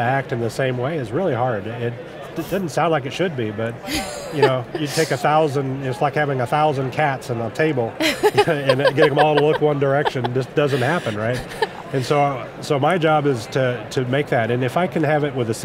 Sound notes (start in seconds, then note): 3.8 laughs